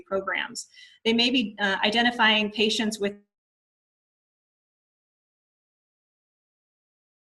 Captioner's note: sound disappears